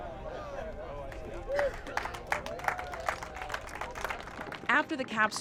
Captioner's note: applause